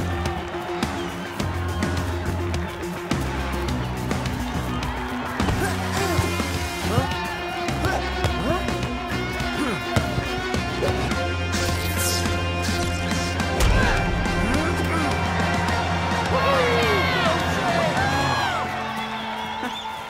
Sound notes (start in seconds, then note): 0.2 tense music; 5.7 grunting; 11.3 zapping; 15.9 crowd cheering